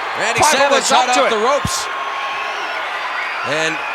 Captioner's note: mumbling